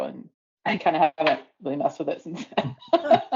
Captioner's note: laughter